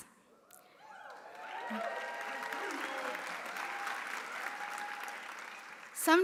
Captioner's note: audience cheering; audience applauding